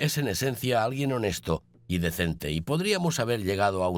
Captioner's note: none